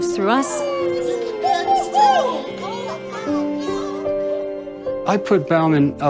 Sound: chattering

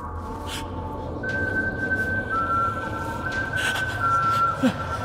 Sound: panicked breathing

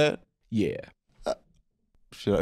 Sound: tiny distressed noise

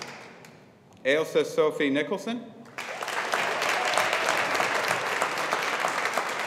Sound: audience applauding

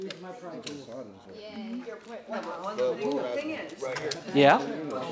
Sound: chatter

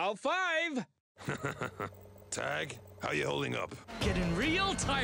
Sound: chuckles

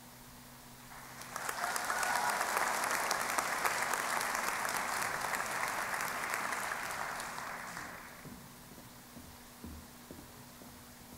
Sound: applause

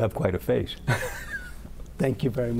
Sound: laughter

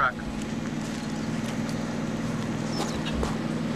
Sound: truck engine noise

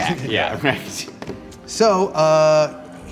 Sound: laughs

